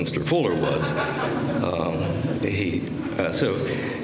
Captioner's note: laughter